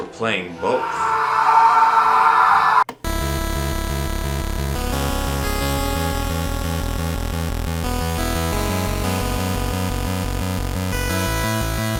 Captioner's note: audible scream